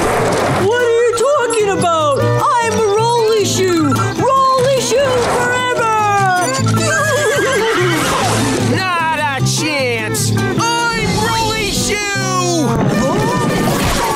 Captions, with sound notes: What are you talking about? I'm a rollie shoe. Rollie shoe forever! [Whinnying] Not a chance! I'm rollie shoe!